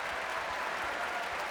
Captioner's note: applause